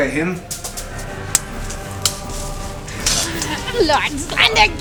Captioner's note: fighting noises and music